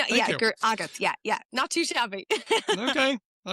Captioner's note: laughs